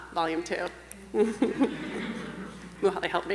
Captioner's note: chuckling